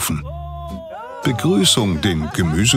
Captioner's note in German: Freudige Ausrufe